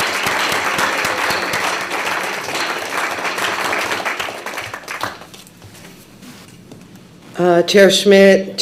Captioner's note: applause